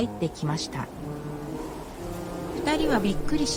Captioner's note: sound of wind